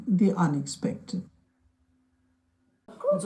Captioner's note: foreign language